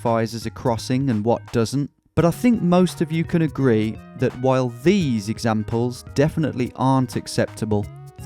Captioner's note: none